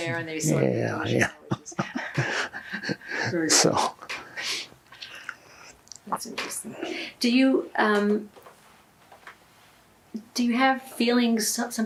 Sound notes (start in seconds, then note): 0.9 laughing